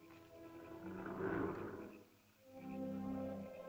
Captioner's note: soft music; animal growls; ominous music